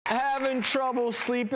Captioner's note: audience clapping